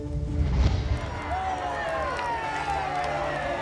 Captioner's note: people booing